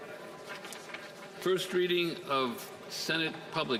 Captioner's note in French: voix de l'interprète